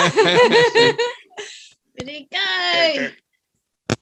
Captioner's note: laughing And Clapping